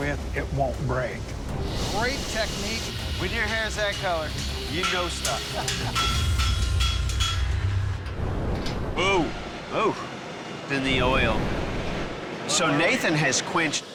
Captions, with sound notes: it won't break. - Great technique. - When your hair's that color, you know stuff. [clanging] - Whoa. - Whoa. In the oil. So Nathan has quenched.